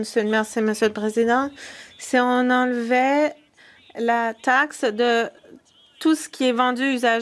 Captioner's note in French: voix de l'interprète